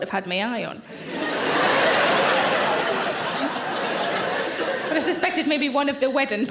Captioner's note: audience laughing